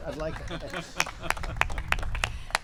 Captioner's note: laughter and applause